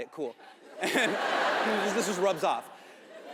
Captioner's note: audience laughs